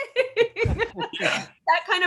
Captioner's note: laughs